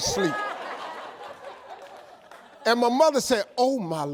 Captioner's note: audience laughs